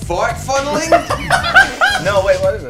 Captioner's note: group laughs